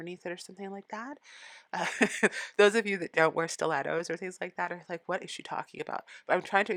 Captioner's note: laughing